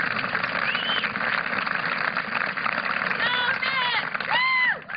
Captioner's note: applause